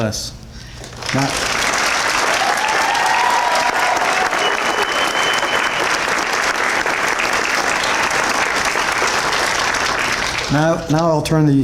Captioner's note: applause and Cheers